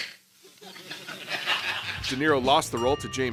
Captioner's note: laughter